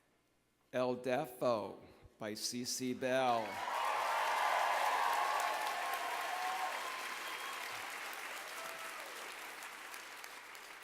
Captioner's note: applause